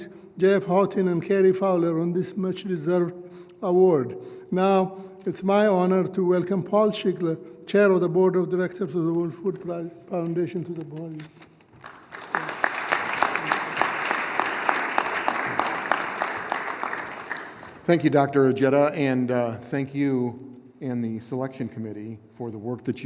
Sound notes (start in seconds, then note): 16.4 applause